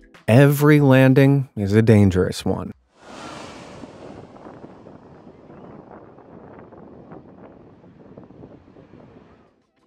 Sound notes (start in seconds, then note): 2.9 wind blowing; 3.0 plane engine roaring